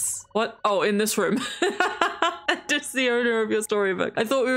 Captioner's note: laughs